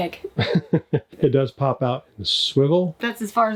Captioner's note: laughs